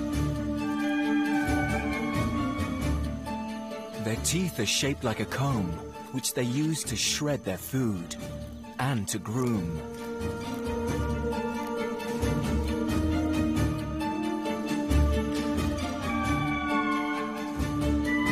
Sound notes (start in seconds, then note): 4.2 playful music; 10.2 lemurs howling